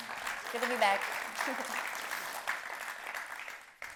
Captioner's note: applause